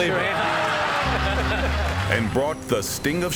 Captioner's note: Rod and David laughing